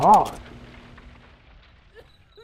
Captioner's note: radio sound fades off; Crickets, Emily sobs